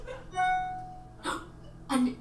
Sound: phone notification dings

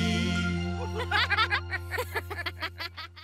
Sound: laughing

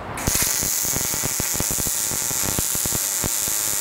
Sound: welder crackling

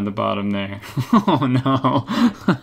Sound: chuckles

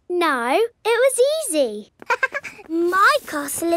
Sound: chuckles

